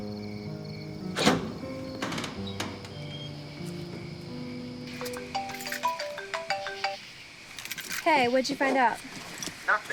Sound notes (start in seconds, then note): 1.1 door wrenching; 5.2 cell phone ringing